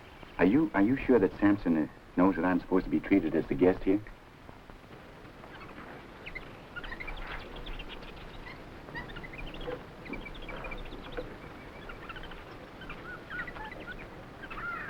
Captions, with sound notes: Are you sure that Samson knows that I'm supposed to be treated as the guest here? (animals chattering)